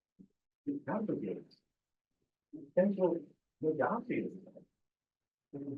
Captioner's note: presenter speaking faintly off mic